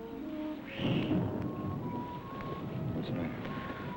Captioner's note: gentle music; thunder rumbling